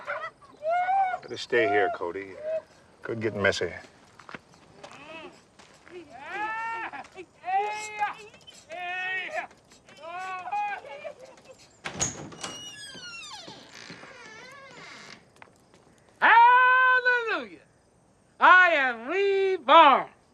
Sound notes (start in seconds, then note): 0.6 man screaming; 5.8 exclamations; 7.5 bedsprings squeaking; 10.0 man crying out